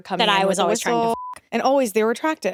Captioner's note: beep